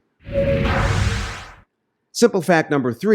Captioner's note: whooshing